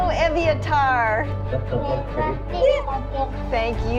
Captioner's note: speaks in foreign language